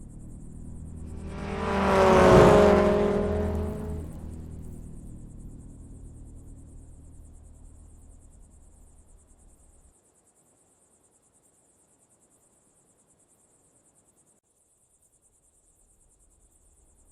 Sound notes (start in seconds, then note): 1.0 car engine rumbling